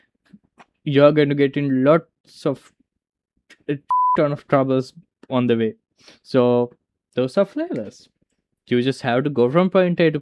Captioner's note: beep